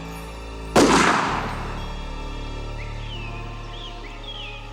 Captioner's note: gun firing